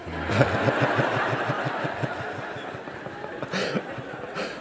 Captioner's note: laughter